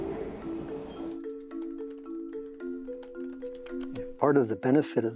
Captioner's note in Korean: 타자 소리